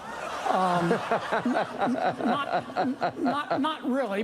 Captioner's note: audience laughing; news anchor laughs